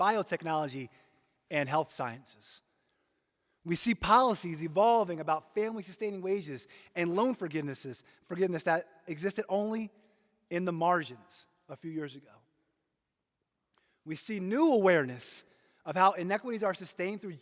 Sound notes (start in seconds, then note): none